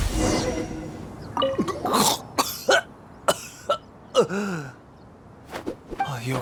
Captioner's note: coughing